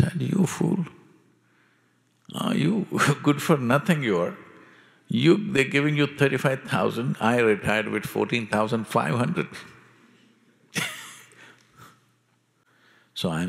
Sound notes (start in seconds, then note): 10.7 laughs